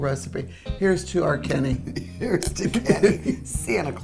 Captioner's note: chuckles